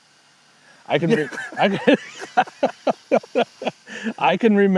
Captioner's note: laughing